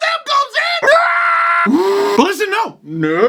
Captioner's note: sounds of agony